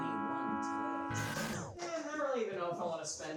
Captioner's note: glitching sound